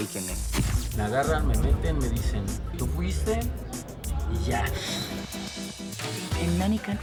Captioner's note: speaking spanish